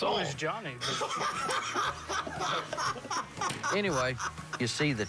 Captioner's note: laughs